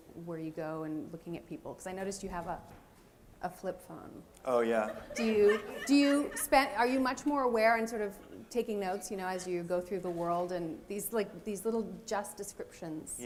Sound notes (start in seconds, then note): 4.7 laughter